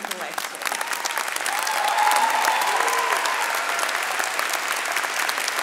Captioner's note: audience cheering and clapping